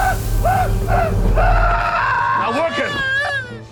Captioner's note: screams; shrieking